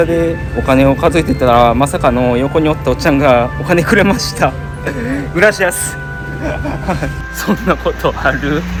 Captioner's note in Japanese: 笑い